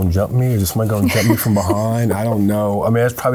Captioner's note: laughing